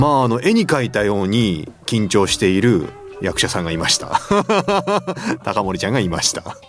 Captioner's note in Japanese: 笑い